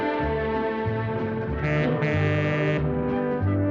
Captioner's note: monorail horn